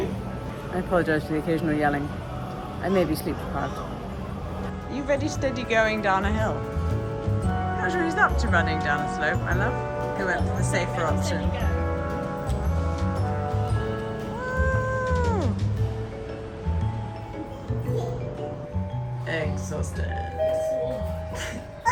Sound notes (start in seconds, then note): 14.7 cheering